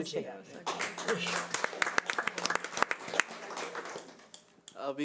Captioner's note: audience applause